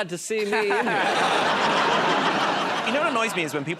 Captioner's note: laughter